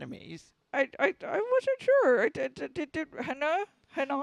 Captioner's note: stutters